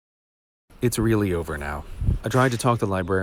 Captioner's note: whispering loudly